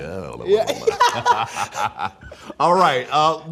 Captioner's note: both laughing